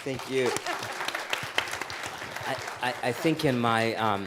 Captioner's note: audience applauding